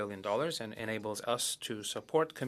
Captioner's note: speaking French